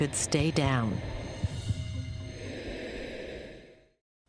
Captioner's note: heartbeat, exhaling into regulator